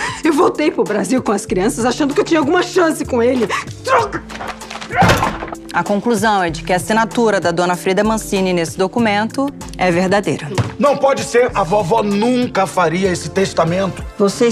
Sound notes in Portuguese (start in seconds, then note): 3.8 grito